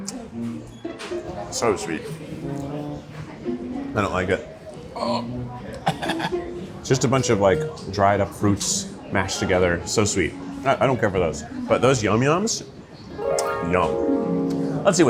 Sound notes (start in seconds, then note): 5.8 imitates gagging; 13.0 gentle enchanting music